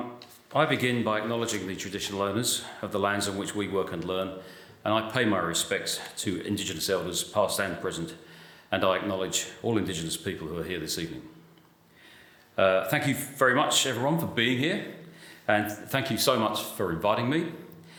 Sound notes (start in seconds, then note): none